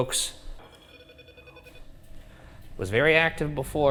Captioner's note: device beeping